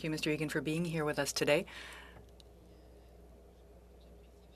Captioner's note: speaking French